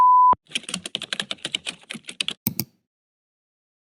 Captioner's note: click